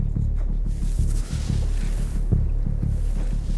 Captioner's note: hissing